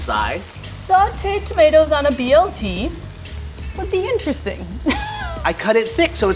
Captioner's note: laughs